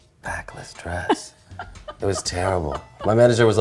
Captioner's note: laughs